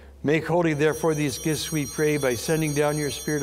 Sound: bell ringing

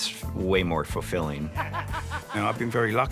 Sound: laughter

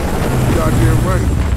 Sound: sirens

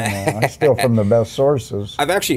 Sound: laughing

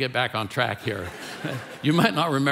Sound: congregation laughing

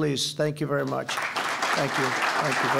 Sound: applause

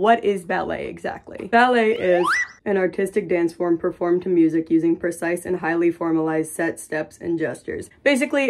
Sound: slide whistle

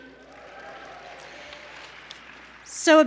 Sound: cheering

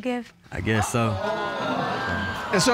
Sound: audience gasps

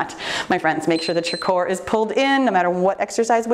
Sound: timer beeps

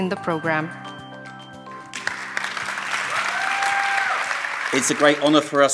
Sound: applause

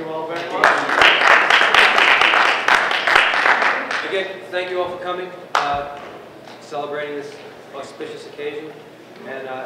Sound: applause

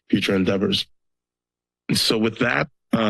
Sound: pause

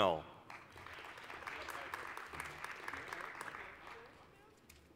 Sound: applause

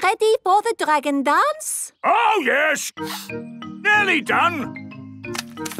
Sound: sniffing

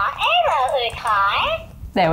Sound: furby talking furbish

